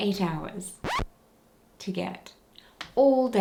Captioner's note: record scratching